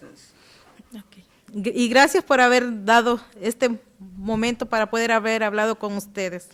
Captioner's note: speaking Spanish